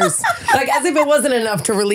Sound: laughing

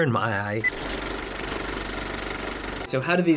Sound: movie reel clicks

